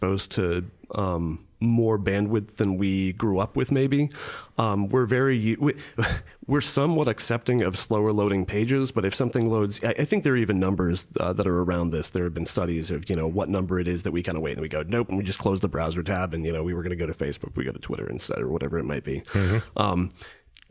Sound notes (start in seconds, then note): 6.0 chuckling